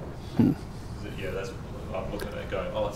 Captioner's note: voiceover